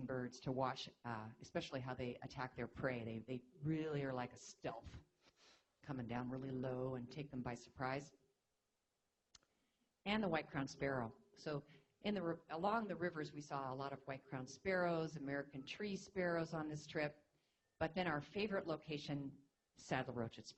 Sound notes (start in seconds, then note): none